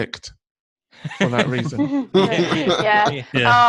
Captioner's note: everyone laughs